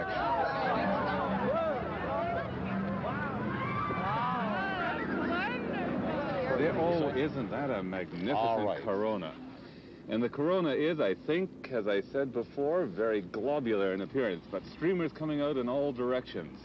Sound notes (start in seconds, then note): 4.0 crowd gasping